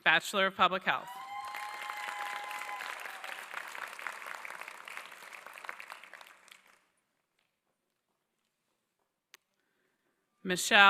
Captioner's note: applause